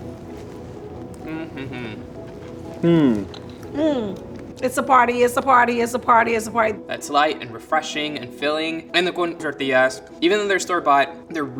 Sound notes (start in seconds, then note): 0.8 all make mm sounds